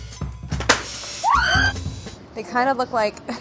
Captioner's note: light upbeat music; screaming